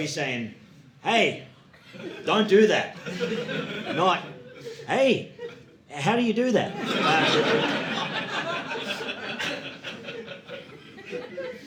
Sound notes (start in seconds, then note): 6.7 audience laughing